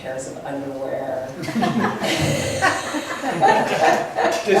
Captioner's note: laughs